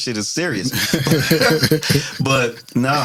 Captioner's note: laughing